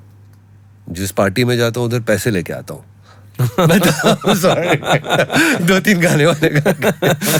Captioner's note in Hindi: हंसी